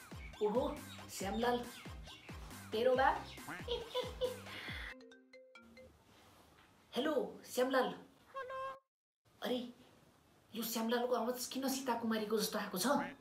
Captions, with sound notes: Whoa, It's a Shyam Lal. Your father! *Giggling* Hello, Shyam Lal -Hello Oh! Why this man speaks like a woman?